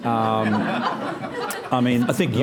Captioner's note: audience laughing